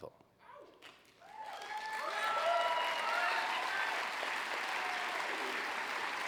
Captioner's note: applause